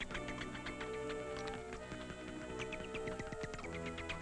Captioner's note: bats chirping